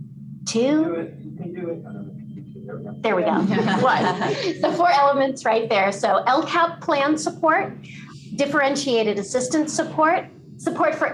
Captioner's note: laughter